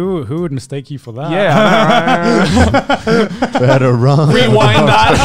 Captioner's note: laughing